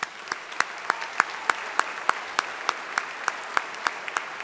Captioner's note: audience applauding